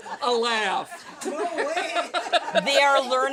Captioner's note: laughter